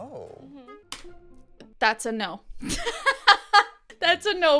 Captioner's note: laughs